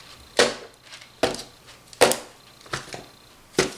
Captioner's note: thuds